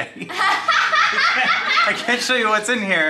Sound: everyone laughing

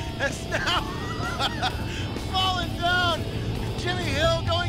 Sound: laughs

